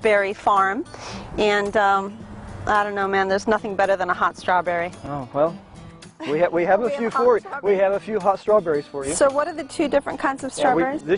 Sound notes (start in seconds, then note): 8.0 laughter